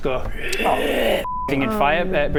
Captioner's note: sucking in air sounds